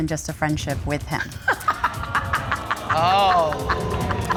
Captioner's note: laughing